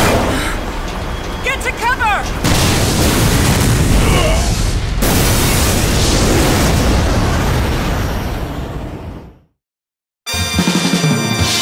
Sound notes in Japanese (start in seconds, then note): 2.3 爆発音; 4.8 爆発音